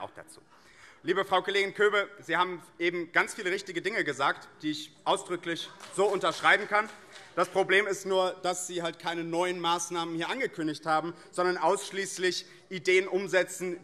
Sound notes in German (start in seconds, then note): 5.5 Beifall